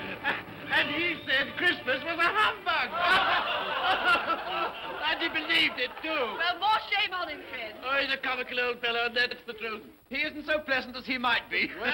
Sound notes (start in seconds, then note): 0.0 laughs; 2.8 all laugh